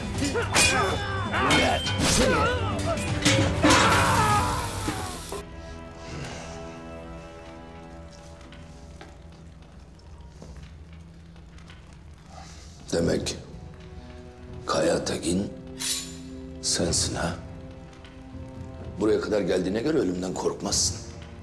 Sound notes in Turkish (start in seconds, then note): 10.3 Ateş çıtırtıları sesleri; 15.8 Kılıç sesi